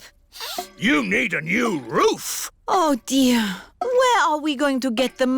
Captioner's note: sniffs